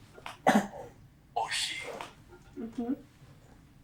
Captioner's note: cough; achmet – artificial male voice